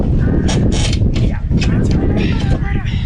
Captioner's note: squeaky crowbar noises